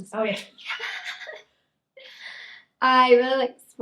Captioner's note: pair laughing